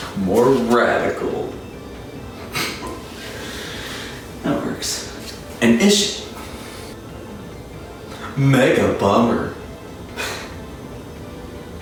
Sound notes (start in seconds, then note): 2.4 chuckle; 10.2 laugh